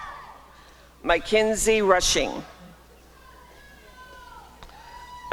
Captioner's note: applause and cheering